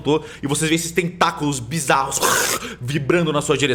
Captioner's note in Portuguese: Argh